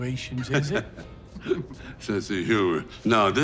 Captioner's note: Dwight laughing